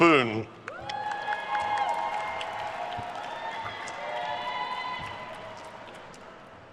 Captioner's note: attendees cheering and applauding